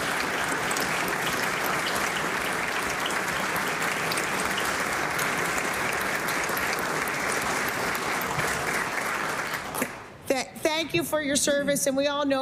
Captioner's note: applause